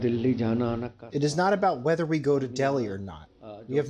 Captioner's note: through translator